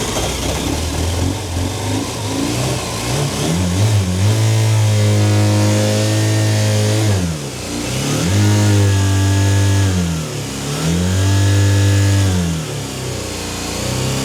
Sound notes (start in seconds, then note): 3.3 engine noise